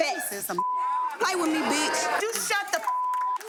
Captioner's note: beep; beep